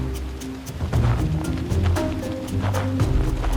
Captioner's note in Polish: odgłosy kroków